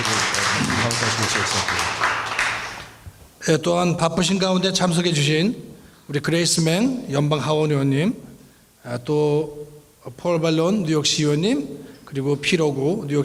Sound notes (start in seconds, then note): 0.0 applause; 4.0 speaking in foreign language